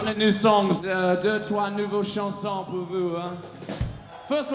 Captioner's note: speaking belgian